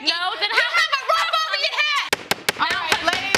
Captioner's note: bangs gavel